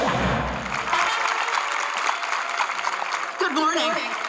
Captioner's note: audience clapping